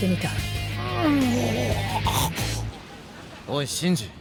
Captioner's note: Sound of Shinjiro in immense pain